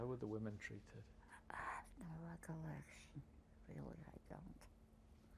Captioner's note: whispering